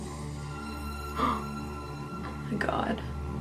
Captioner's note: gasping